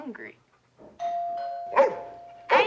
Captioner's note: doorbell rings; angus barks